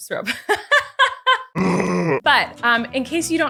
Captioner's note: laughs